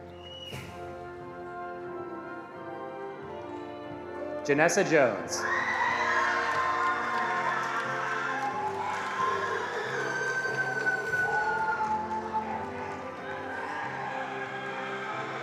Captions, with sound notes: Janessa Jones. (attendees cheering and applauding)